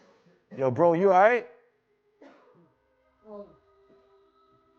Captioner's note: man coughing